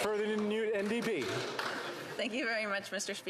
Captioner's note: applause